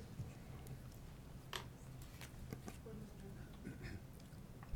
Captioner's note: people chattering